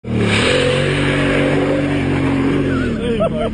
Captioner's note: car revving; laughing